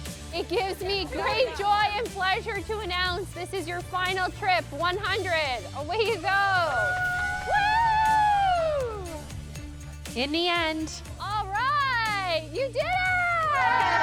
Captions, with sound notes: It gives me great joy and pleasure to announce this is your final trip, 100. Away you go. [athletes cheering] In the end... All right, you did it.